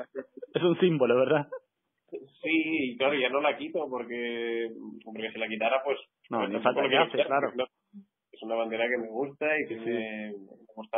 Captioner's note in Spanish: risas